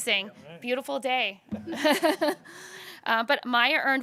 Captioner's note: chuckles